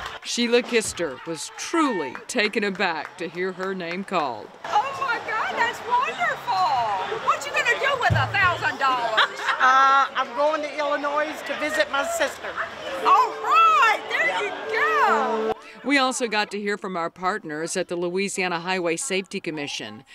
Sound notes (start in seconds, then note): 8.9 woman laughing